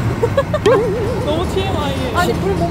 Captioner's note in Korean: 웃음